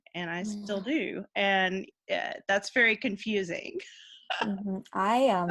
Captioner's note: laughing